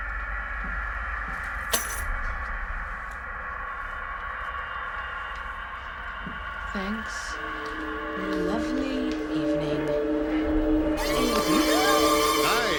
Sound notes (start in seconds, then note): 1.7 keys jangling; 11.8 gasps